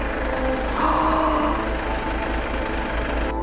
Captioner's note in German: keucht